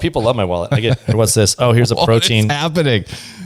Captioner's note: laughs